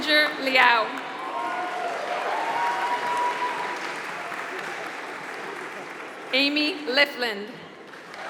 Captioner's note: applause; applause